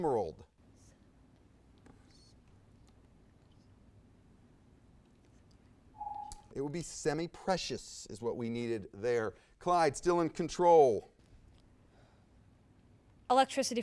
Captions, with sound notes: (timer dings) It would be semiprecious, is what we needed there. Clyde still in control.